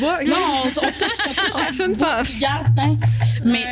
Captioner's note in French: rires